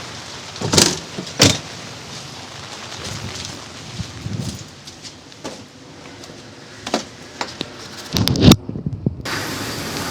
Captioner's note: engine revving